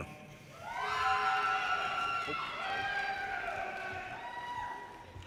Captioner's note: audience cheers and applause